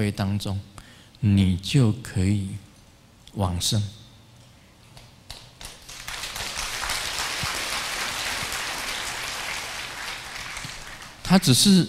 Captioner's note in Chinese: 眾鼓掌